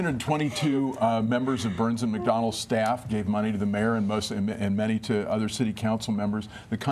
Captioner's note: laughter